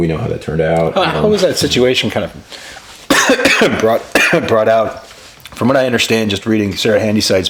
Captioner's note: coughs